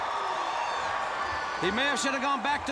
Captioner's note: crowd cheering